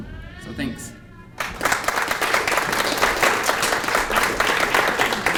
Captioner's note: applause